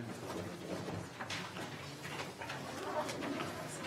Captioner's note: people chattering